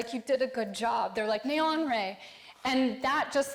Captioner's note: speaking foreign language